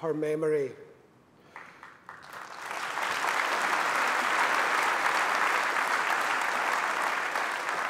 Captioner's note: applause